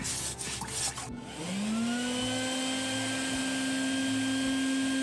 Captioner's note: vacuum